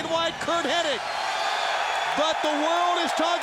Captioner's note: audience cheers